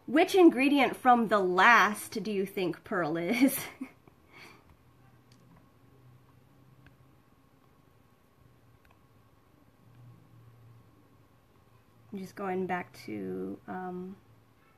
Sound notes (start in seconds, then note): 3.6 laughs